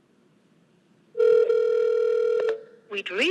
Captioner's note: phone ringing